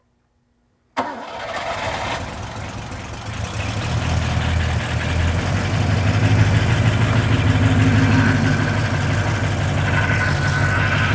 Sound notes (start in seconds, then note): 6.2 engine rumbling